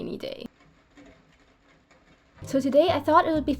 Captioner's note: heavy rain on my skylight